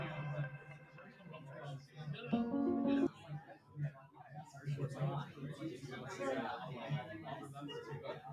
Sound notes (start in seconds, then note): 4.0 chatter